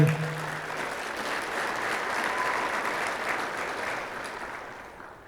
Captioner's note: audience applauding